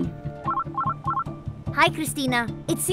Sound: phone rings

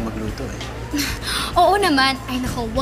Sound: soft chuckles

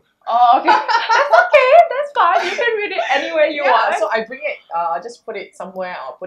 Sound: laughters

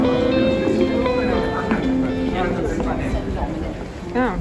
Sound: crowd noise

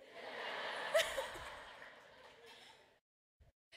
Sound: laughter

